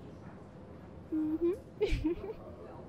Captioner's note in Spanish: risita